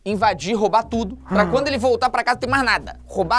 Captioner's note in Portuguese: faz som de surpresa